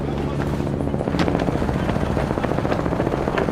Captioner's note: helicopter whirring